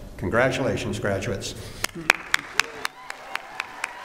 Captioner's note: applause